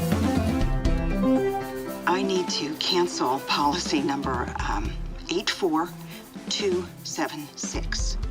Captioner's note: woman on phone